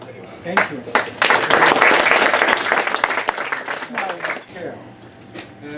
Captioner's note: applause